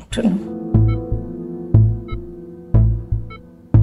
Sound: steady beeping

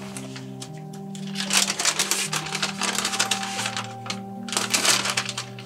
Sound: plastic packaging crinkles

